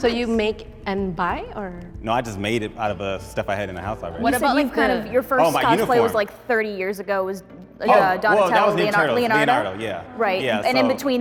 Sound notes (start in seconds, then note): none